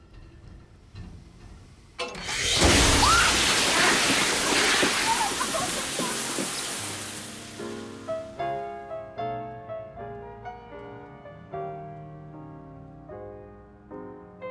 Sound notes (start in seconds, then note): 2.0 pipes rumbling; 2.0 water blasting; 5.9 laughing; 9.6 romantic piano music